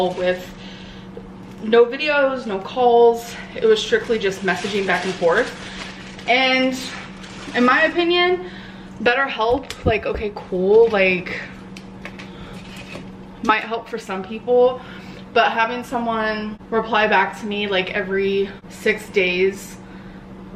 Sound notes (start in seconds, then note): none